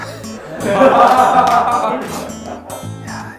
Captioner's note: crowd raving